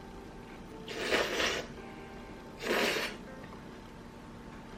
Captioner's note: slurp